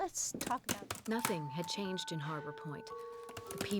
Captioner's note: typing